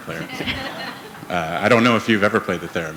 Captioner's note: laughter